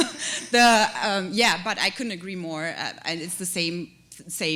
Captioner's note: chuckle